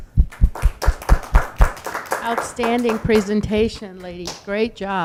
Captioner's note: audience applauds